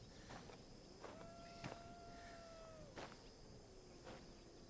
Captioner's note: coyote howls in distance